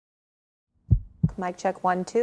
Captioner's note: heart beat